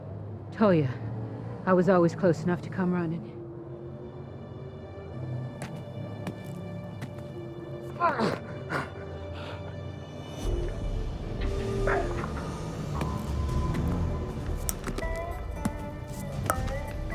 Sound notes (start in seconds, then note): 6.1 footsteps; 13.0 footsteps, drops cartridges